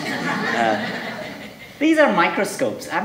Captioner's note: audience laughing